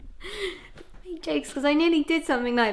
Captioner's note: laughs